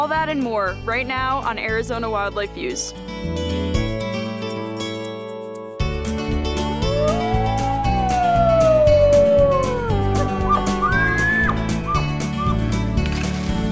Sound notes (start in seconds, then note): 6.6 wolf howling; 9.8 elk bugling